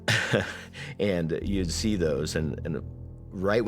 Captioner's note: chuckles